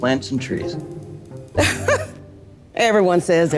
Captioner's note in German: lacht spöttisch